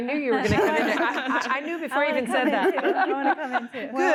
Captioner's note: laughter